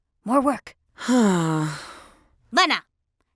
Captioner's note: sighs